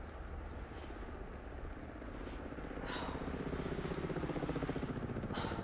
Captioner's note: helicopter overhead